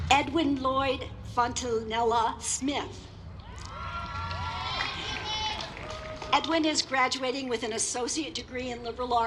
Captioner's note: applause